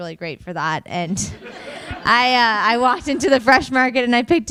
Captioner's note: audience laughing